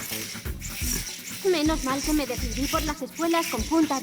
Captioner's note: whirring motor